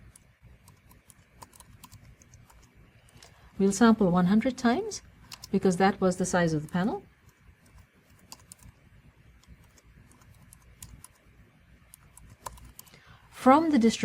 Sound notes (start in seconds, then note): 1.0 pause